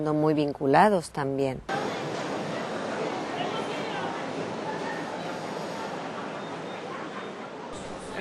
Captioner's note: hustle sounds at a traditional market